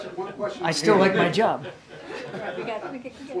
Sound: laughter

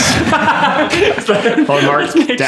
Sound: all laughing

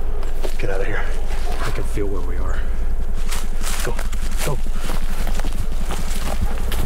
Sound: helicopter whirring; footsteps rustling

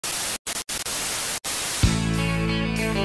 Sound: static

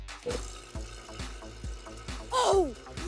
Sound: machine sounds

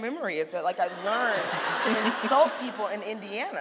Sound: audience laughing

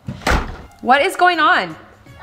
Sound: door slamming

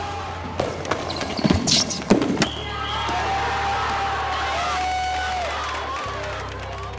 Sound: cheers

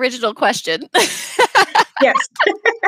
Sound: laughing

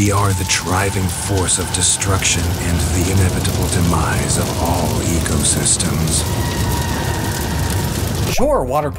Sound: distant screams

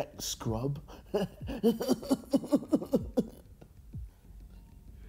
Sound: man chuckles

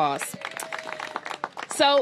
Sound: applause

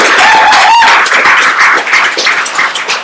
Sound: applause

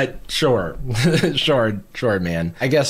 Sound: chuckles

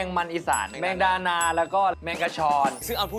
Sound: mole crickets

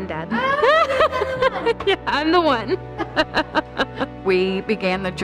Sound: laughs

